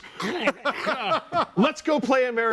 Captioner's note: all laughing